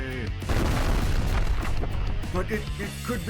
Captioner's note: explosion